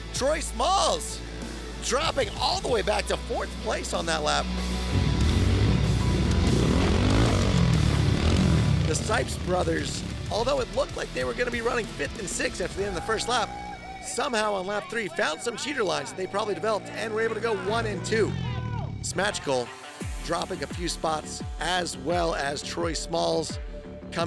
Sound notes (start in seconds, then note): 6.4 engines revving